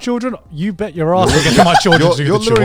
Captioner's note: laughs